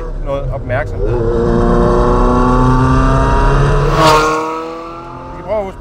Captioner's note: engine sound